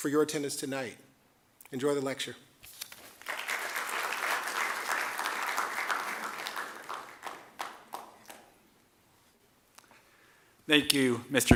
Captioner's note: applause